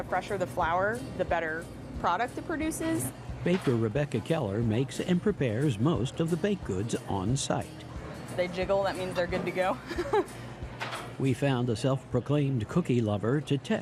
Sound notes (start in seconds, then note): 9.8 laughs